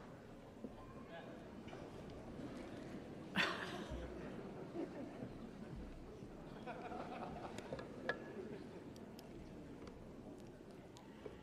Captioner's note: crowd Noise